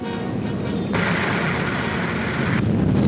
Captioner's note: rattling